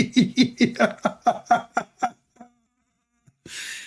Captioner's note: Ketawa